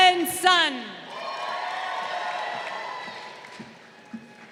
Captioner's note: crowd cheering